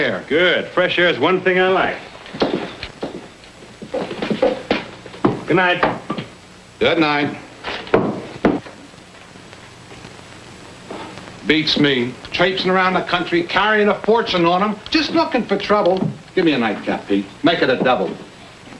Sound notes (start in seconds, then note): 2.3 boots clacking